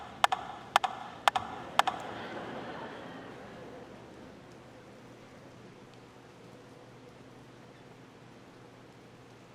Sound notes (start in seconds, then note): 3.2 audience laughing